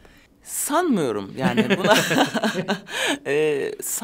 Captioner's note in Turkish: Gülüyorlar